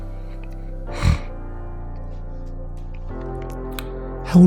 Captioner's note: snuffles